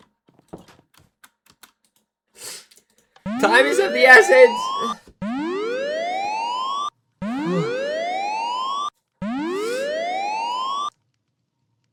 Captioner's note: snorts